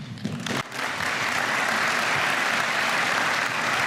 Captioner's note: applause